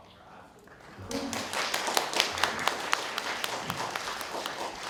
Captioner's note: applause